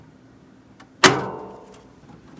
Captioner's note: forcefully CLANGS